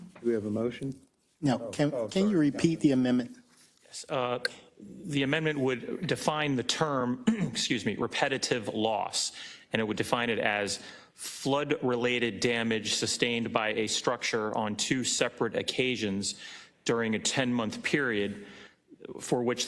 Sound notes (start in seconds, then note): 7.2 cough